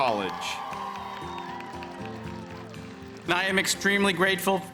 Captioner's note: crowd cheering and clapping